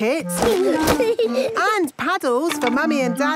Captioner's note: giggling